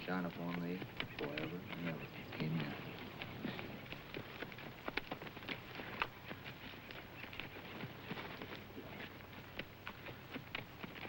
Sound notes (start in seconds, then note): 4.8 horse hooves clopping